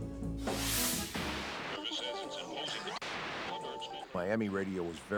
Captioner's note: radio tuning